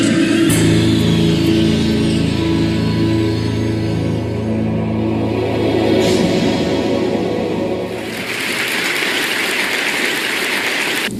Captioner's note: applause